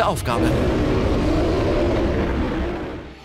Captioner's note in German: Bärenschrei